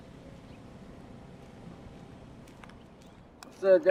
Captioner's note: birds chirping; mower; footsteps